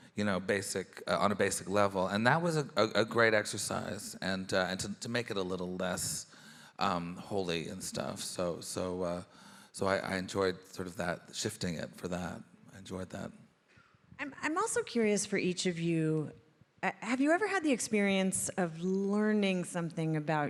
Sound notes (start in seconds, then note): none